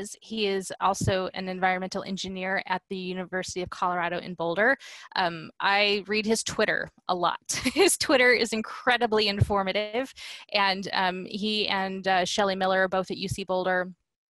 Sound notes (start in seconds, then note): 7.6 laughter